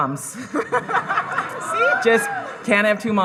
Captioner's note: audience laughing